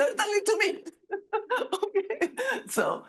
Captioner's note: all laughing